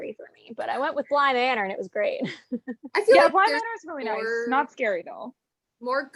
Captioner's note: laughs